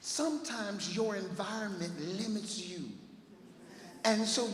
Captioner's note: none